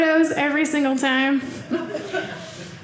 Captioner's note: audience laughing